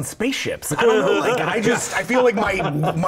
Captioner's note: laughter